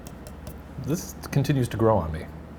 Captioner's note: tapping beer